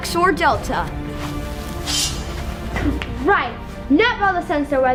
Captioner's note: wire chops in half